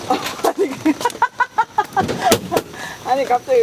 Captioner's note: laughs